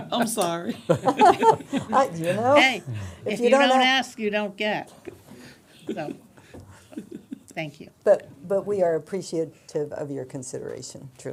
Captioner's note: laughter